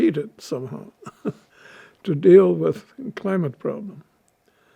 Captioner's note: laughing